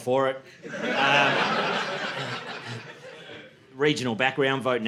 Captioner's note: audience laughing